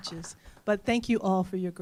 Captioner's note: applause